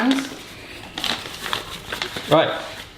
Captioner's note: paper rustling sounds